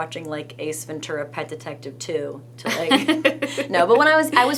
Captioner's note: laughing